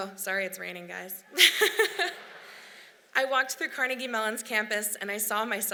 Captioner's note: laughs